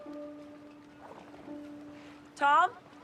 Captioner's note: water splashing